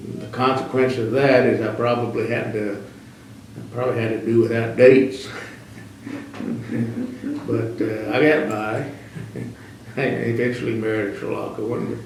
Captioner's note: laughs